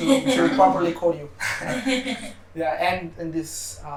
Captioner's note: laughter